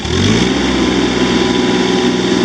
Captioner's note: machine revs up